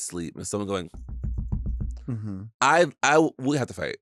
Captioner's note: tapping